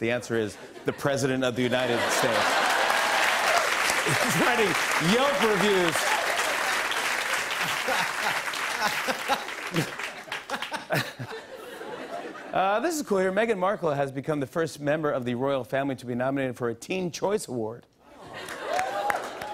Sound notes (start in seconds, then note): 2.8 cheers and applause; 9.1 laughter